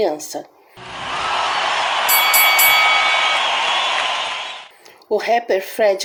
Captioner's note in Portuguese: Som de ringue